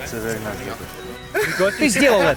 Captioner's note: laughter